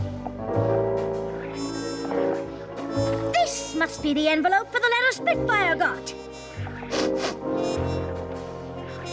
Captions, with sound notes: This must be the envelope for the letter Spitfire got! [sniff sniff]